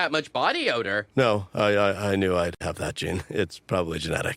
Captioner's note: whispers